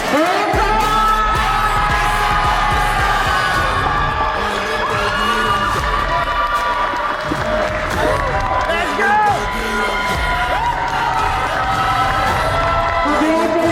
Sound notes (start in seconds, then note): 1.9 cheering